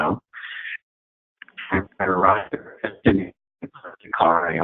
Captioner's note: distorted audio